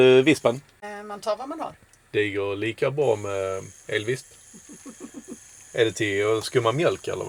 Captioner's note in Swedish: skratt